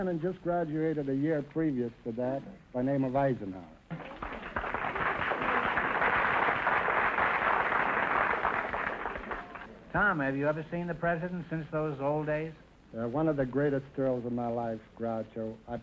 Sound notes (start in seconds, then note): 3.9 applause